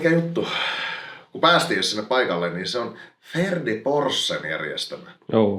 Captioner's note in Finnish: hengähtää